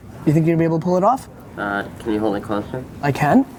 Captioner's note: voiceover